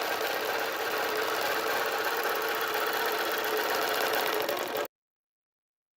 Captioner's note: machine whirring